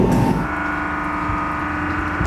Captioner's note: muffled whirring